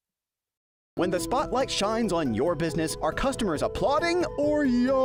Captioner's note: voiceover